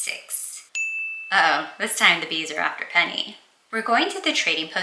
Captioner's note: ding sfx